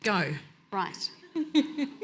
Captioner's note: chuckles